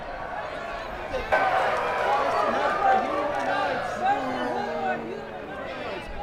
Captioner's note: crowd clamoring loudly